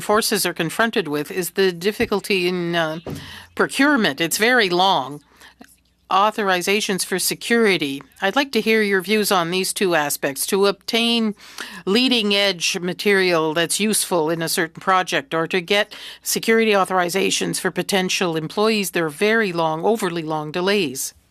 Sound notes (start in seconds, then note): 1.5 speaking French